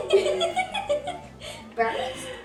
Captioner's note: laughs